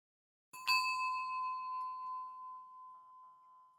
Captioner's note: bell rings